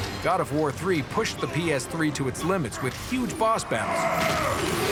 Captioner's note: grunts; smashing